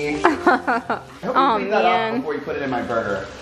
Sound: laughing

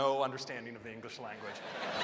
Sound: laughter

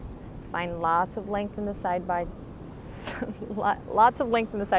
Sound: laughs

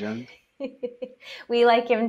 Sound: laughs

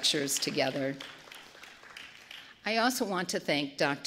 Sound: applause

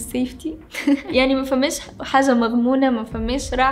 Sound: laughs

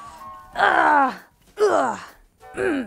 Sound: grunts

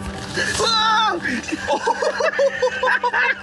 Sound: screaming; all laughing

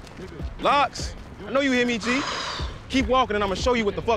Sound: Jake sighing

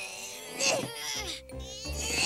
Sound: groaning

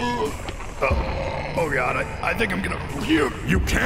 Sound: puke

